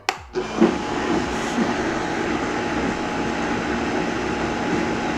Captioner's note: blender whirring